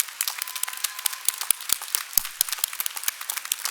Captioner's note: applause